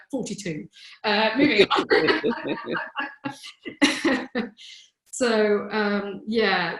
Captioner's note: chuckles